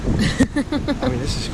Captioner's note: laughing